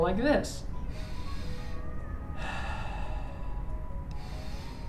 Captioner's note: inhale, exhale